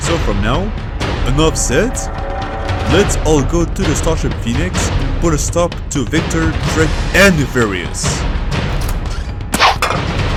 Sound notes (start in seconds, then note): 8.6 door opens